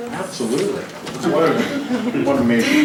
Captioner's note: laughter